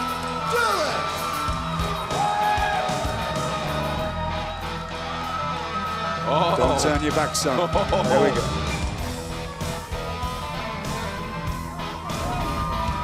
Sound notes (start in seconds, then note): 1.4 crowd cheering